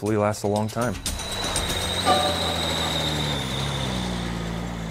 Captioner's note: truck engine running